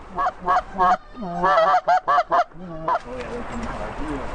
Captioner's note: goose call